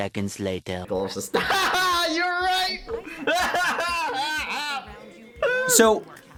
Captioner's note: laughing in dystopia